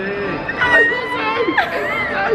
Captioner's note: squeals